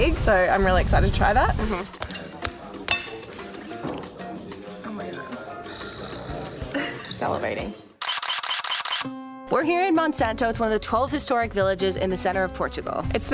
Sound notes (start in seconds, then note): 2.8 knife hitting plate; 8.0 camera shutter clicking